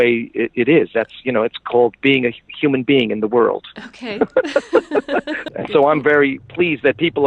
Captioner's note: laughs